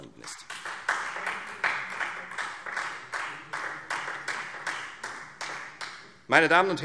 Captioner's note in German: Beifall Freie Demokraten